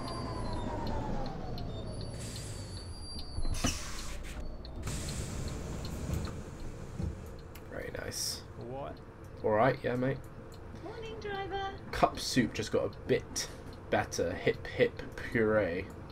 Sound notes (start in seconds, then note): 8.5 australian Accent